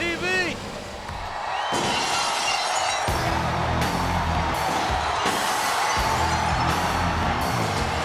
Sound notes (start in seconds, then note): 0.0 audience cheering; 1.7 glass shattering; 3.0 rock music